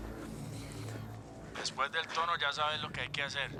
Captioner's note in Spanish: voz en el contestador